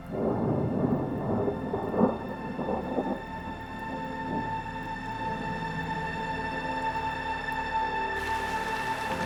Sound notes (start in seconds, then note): 0.0 melancholy music continues; 0.0 rain pouring